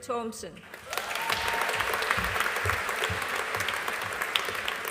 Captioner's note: audience applauding